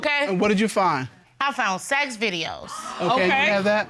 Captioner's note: audience exclaiming